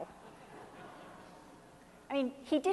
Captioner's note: laughing